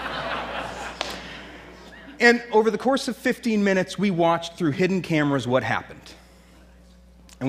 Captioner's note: laughter